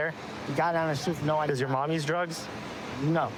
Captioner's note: none